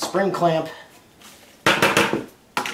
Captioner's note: tapping